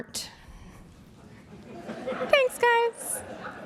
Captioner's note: laughter